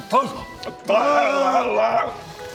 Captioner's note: hrrghghghhh